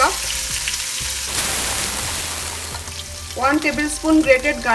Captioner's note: pan sizzling